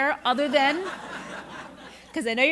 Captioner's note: laugh